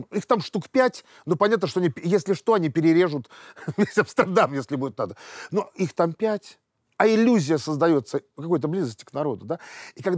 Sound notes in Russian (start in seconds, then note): 3.7 смеется